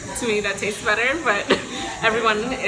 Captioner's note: laughs